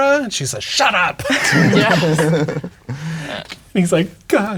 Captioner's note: players laughing